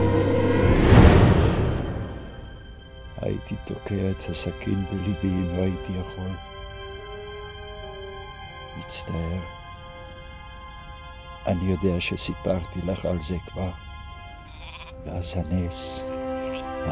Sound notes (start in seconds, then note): 6.5 speaking in Hebrew